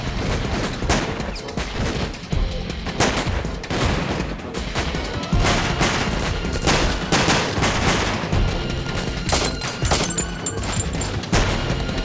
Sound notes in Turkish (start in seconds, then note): 9.2 cam kirilma sesi̇; 9.3 si̇lah sesleri̇